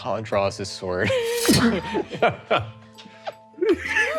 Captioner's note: all laughing